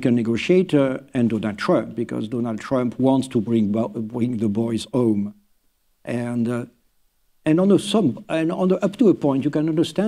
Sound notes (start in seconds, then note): none